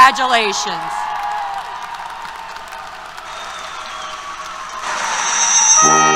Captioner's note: applause, Cheers